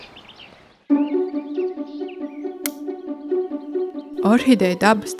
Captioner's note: clapper